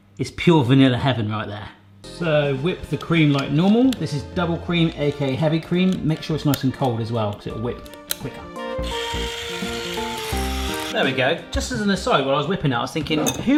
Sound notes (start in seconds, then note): 2.1 soft upbeat music; 8.7 soft upbeat music; 8.8 mixer whirring